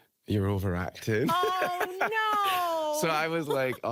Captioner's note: laughing